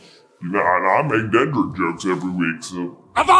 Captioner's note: deep voice